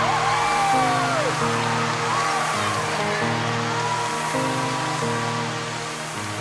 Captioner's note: applause